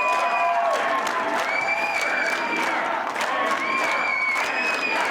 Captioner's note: cheers and applause